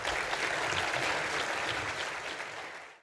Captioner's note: applause